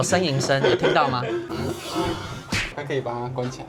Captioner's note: panting